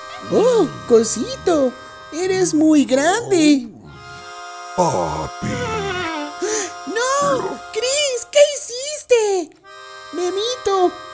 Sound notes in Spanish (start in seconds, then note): 3.7 Gruñidos